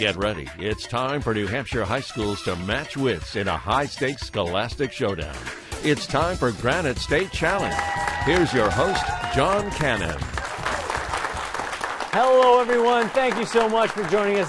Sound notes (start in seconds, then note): 7.2 applause